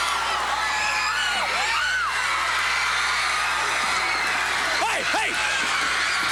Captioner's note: crowd cheering